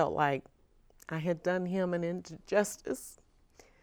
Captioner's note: chokes up